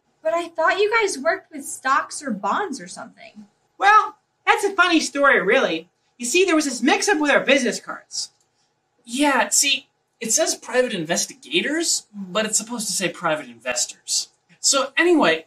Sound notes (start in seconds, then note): none